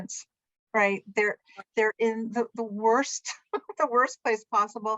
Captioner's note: laughter